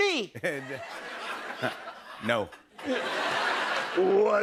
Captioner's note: laughs